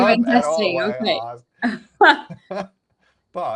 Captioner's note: laughing